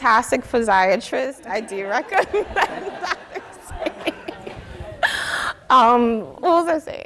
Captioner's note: audience laughing